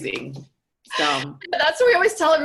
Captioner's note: laughing